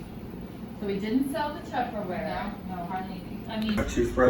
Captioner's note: offscreen chatter